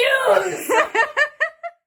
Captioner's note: both laughing